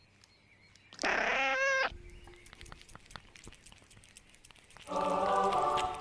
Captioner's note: cat walking; cat meowing and eating